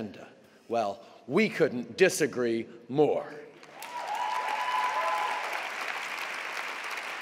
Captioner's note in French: Acclamations et applaudissements